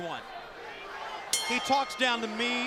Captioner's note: bell ringing